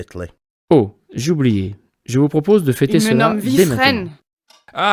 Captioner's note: speaking in badly acted French; speaking in badly acted German